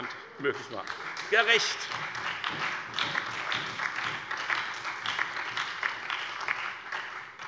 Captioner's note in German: Beifall bei der FDP und der SPD